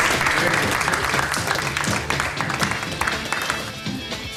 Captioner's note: soft rock music; audience applauding; rock music